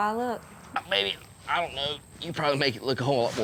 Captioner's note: grunting